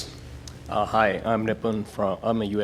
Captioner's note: voiceover